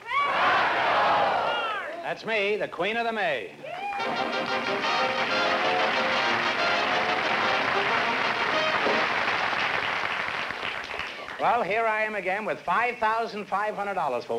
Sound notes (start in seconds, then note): 3.9 applause